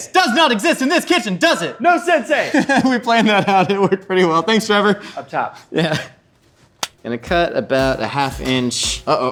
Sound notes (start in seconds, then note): 2.4 laughs; 6.8 slaps hands